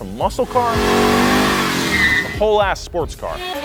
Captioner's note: burning tires